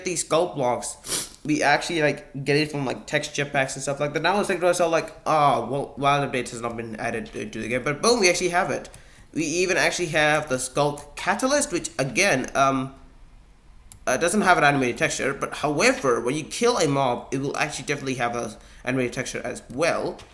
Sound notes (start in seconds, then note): none